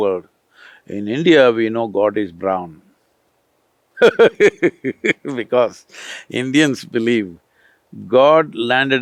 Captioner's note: laughs